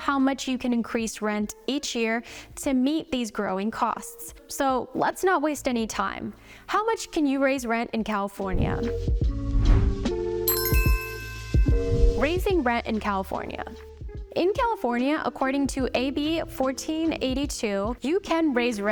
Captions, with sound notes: how much you can increase rent each year to meet these growing costs. So let's not waste any time. How much can you raise rent in California? (soothing music) (bell chimes) Raising rent in California. In California, according to AB-1482, you can raise rent